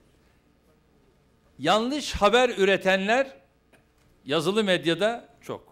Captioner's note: non-english speech